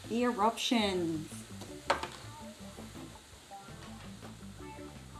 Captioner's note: mixture fizzes